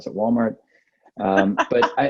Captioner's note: laughs